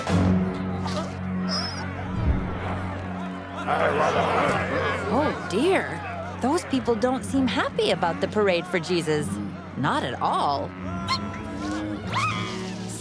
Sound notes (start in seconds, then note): 3.6 grumbling